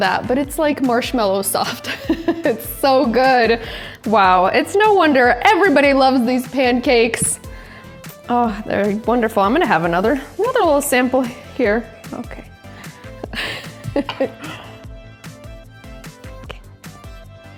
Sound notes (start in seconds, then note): 13.3 chuckles